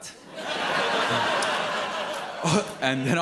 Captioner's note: audience laughs